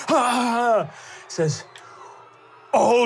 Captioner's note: screams